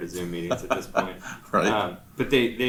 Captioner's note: laughs